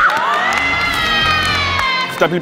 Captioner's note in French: Cris et applaudissements